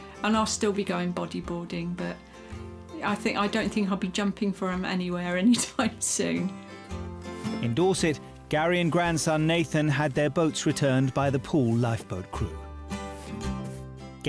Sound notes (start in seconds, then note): 5.5 laughing; 12.7 upbeat music